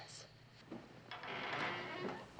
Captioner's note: door creaking